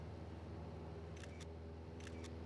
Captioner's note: camera shutter clicking